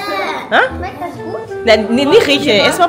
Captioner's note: speaking German